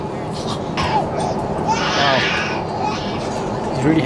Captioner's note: baby crying